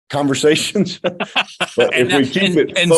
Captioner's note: both laughing